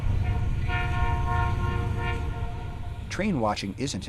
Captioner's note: train horn honking